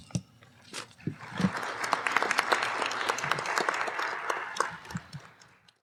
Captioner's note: applause